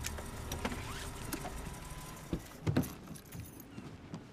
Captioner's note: engine shuts off